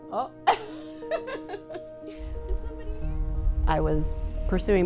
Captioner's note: laughing